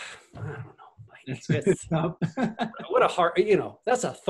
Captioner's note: laughs